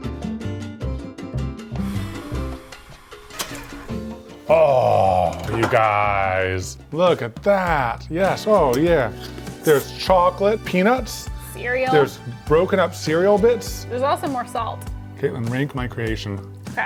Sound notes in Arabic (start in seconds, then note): 1.8 ينفخ